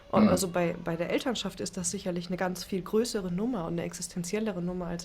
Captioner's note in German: räuspern